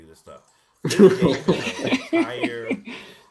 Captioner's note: laughter